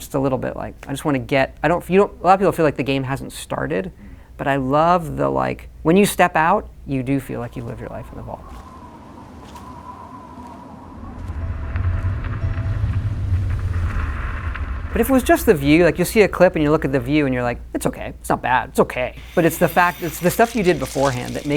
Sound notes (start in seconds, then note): 8.0 wind whistling; 10.8 eerie music